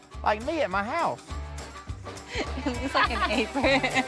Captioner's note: everyone chatters, chuckles